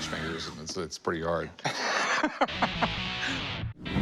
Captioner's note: laughing